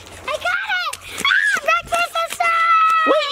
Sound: screams

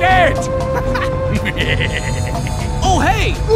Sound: The M36 GMC laughs; The M18 chuckles

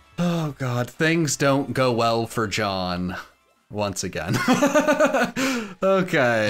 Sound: laughs

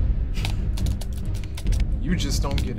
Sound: scoffs

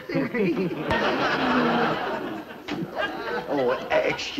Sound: audience laughter

